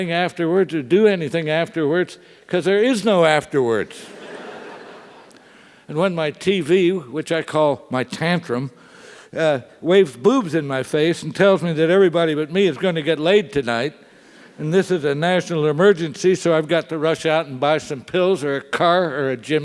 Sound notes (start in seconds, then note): 4.1 laugh